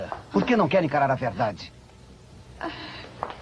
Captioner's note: sighs deeply